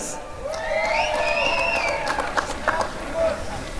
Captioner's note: applause and cheering